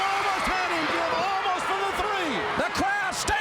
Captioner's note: crowd cheering